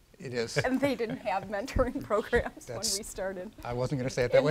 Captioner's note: laughs